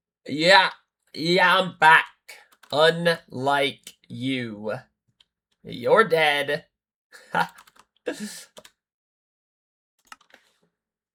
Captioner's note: laughter